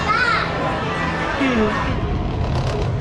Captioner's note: yawns